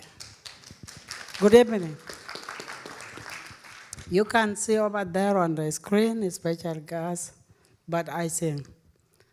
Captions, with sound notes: (audience applauding) Good evening. (audience applauding) You can see over there on the screen, a special guest. But I's him.